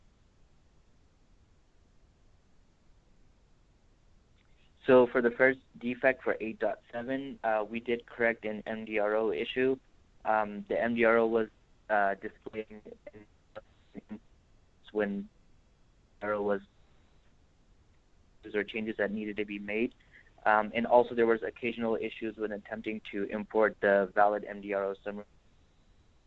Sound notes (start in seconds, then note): 11.9 distortion in connection